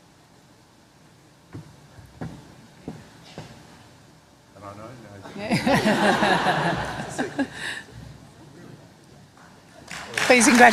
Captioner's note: laughter